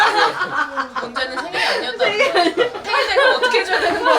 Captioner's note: haha